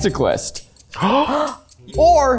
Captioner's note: gasp